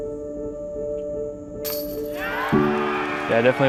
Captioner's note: applause